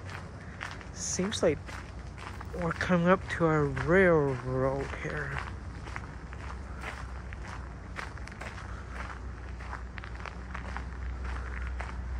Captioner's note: walking on gravel